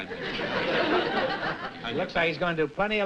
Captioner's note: laughter